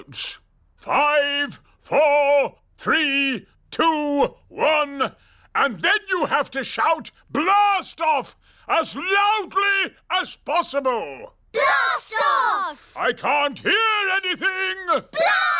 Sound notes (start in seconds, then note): none